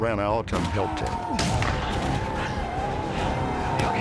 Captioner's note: screaming, gunfire